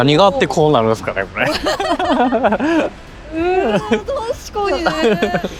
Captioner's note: laughs